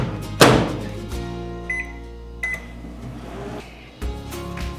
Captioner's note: closes microwave door; microwave beeps